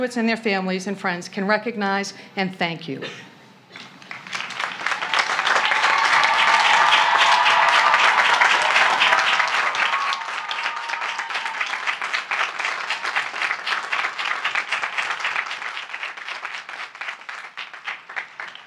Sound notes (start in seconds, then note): 3.7 applause; 4.3 cheering